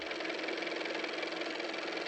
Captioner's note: car motor